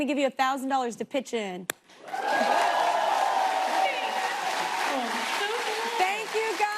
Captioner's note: cheers and applause